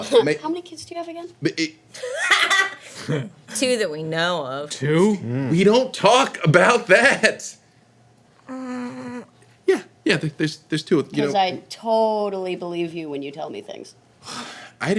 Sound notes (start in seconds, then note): 1.8 Victor stuttering; 1.8 loud cackling